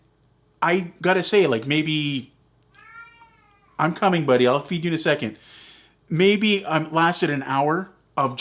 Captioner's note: cat meows... again